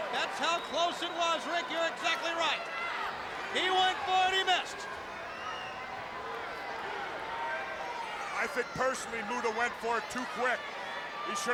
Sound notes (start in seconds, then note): 5.7 crowd chattering